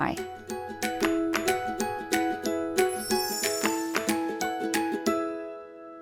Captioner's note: upbeat music; chimes tinkling